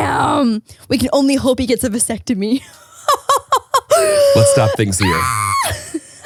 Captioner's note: laughs